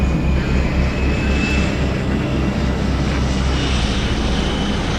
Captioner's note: plane engines roar